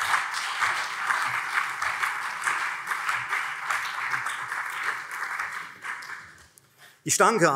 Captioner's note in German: Beifall CDU und SPD